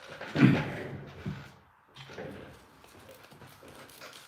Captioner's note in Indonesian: berdehem